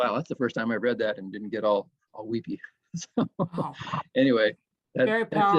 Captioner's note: laughs